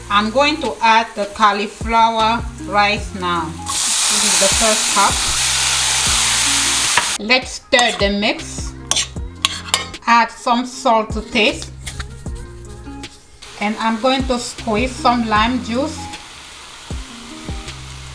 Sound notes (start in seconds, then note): 5.6 cooking oil fizzes